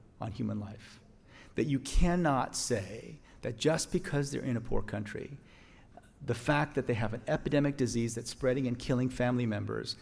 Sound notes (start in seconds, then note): none